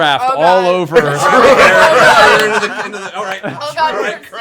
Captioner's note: laughter